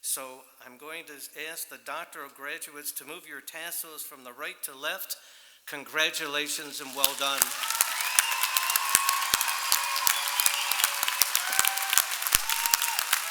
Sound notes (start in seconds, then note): 6.4 applause